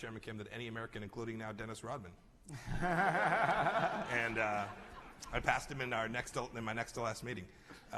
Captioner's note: laughter